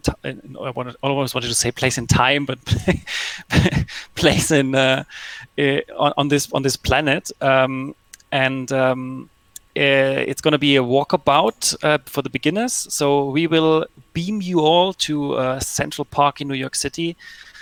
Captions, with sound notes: I almost wanted to say place and time, but (laughs) place on this planet. And, it's gonna be a walkabout for the beginners. So, we will beam you all to Central Park in New York City.